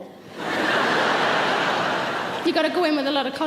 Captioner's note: audience laughs